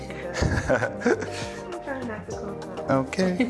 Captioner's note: chuckles